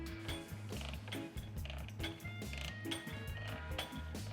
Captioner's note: metal clanking